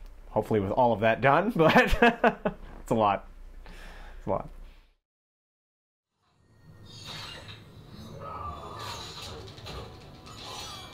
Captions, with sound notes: - Hopefully with all of that done but... [LAUGHS] it's a lot. It's a lot. [VIDEO GAME CHARACTER GROANS]